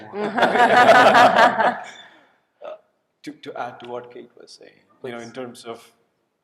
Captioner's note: laughter